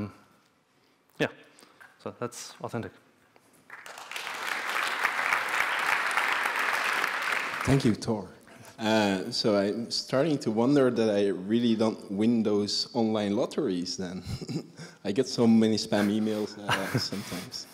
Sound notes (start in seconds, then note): 3.6 clapping